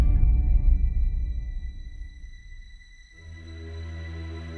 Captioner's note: broadcaster speaks French